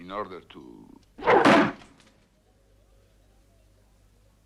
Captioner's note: knife thuds